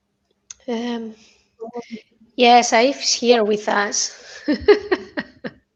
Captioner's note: laughter